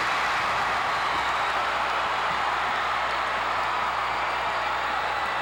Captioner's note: audience cheering continues